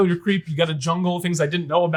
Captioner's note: chuckles